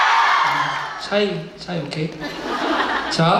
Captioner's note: in English